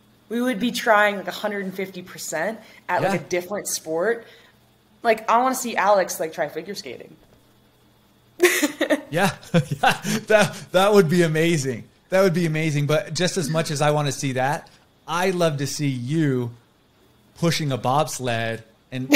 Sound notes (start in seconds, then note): 8.4 chuckles